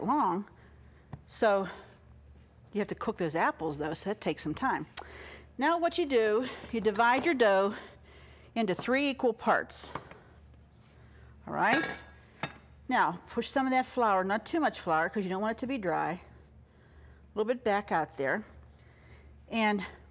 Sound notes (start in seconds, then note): none